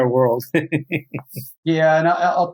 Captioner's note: chuckles